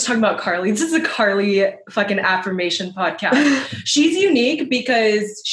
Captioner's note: laughs